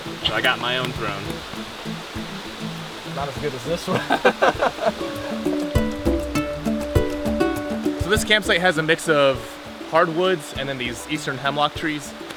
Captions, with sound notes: So I got my own throne Not as good as this one! [all laugh] So this campsite has a mix of hardwoods and then these Eastern hemlock trees